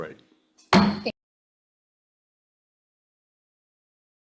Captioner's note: gavel bangs